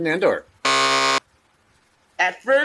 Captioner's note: buzzer